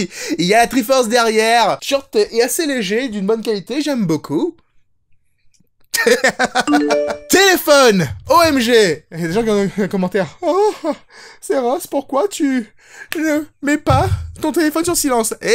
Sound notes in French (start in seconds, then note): 5.9 rire; 6.7 sonnerie de téléphone